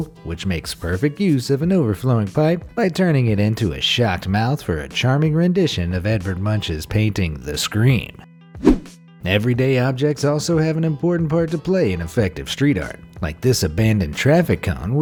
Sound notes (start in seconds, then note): 8.6 air whooshing